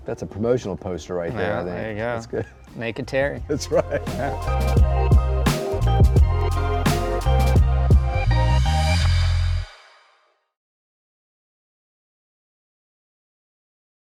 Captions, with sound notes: That's a promotional poster right there. Oh yeah, there you go. That's good. (chuckles) Naked Terry. That's right. (laughing) (gentle upbeat music)